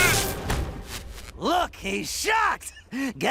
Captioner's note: electricity crackles